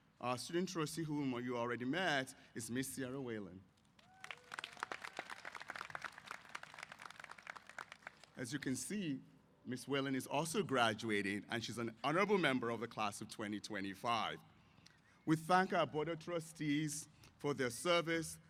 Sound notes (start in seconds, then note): 3.9 applause